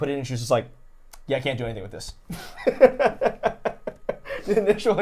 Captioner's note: laughing